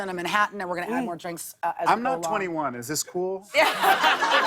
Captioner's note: laughter